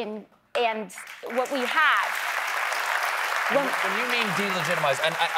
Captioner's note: applause